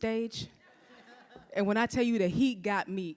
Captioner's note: audience laughs